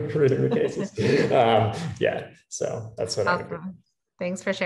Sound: laugh

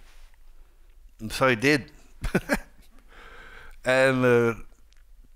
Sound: laughs

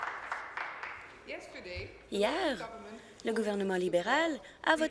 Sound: applause

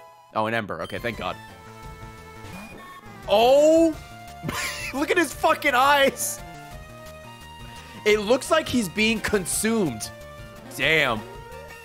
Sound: laughs

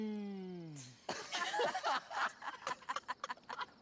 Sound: laughter

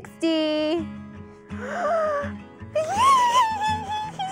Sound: gasping

